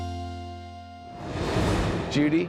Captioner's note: light uplifting music continues; graphics whooshing